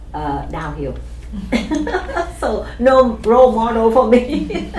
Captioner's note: laughs